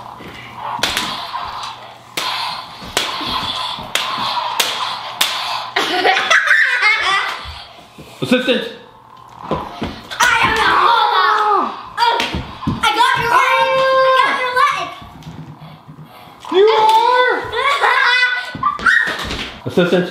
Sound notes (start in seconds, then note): 5.6 laughs; 11.3 man screams; 17.5 girl laughing